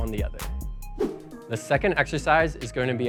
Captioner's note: wooshing